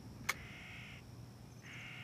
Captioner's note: camera clicks; birds cawing